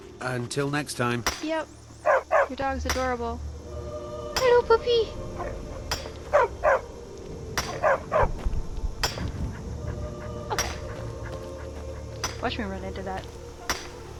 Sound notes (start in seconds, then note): 5.3 dog barks